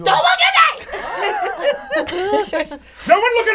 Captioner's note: all chuckle